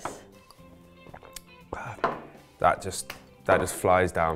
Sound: glugging; glass thuds; hands clapping

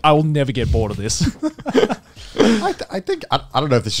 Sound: chuckling

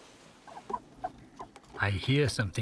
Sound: baby quoll murmurs

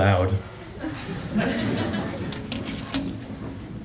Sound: laughter

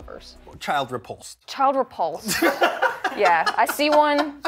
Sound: laughter

